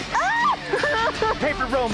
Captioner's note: Promise screams